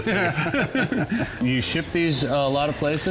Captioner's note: men laughter